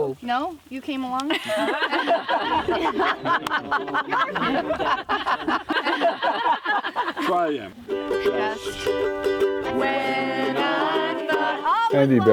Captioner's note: laughing